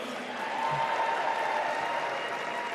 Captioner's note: applause